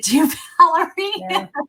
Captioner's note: laughs